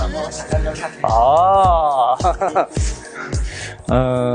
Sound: laughs

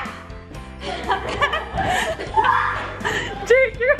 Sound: laughing

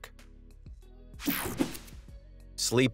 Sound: air whooshing

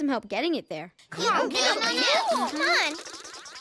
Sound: exited chatter

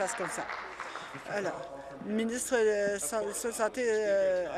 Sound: applause

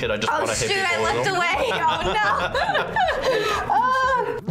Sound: laughs

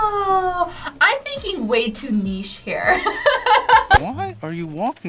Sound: laughs

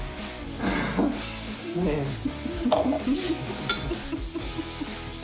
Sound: laughter

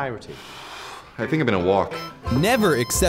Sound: exhales

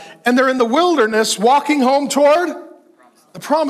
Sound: none

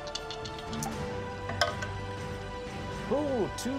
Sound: dice clicks

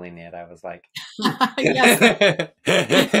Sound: laughing; laughs

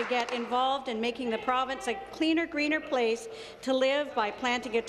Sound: applause

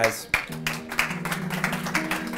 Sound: applause

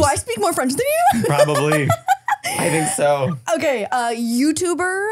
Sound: laughing

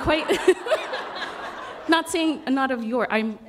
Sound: laughter

